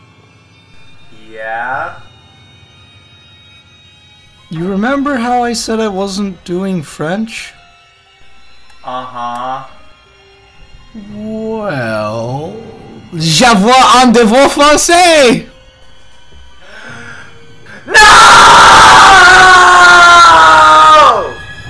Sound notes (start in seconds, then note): 16.7 gasp